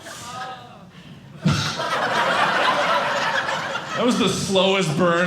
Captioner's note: audience laughing